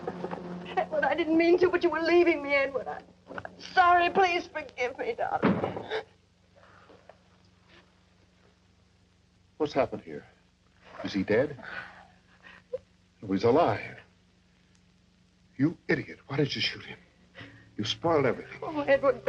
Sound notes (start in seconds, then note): 5.3 Doris gasps; 5.4 door thuds; 11.6 Doris sobs; 17.7 soft dramatic music